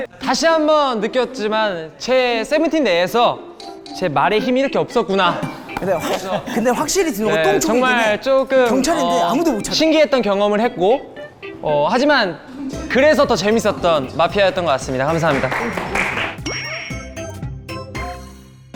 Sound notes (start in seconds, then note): 12.4 can't help but laugh